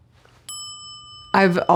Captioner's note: bell chiming